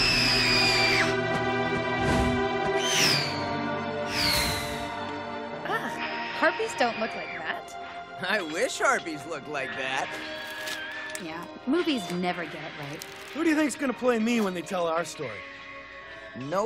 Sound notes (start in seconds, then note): 0.0 screaming